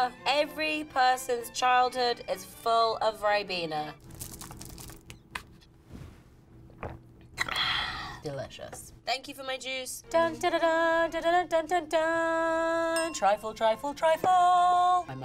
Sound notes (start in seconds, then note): 4.0 juice box crinkling; 4.0 seal pops; 6.7 gulps; 13.0 bell chimes